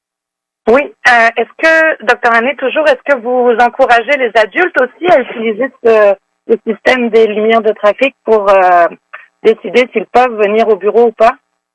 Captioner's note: speaking French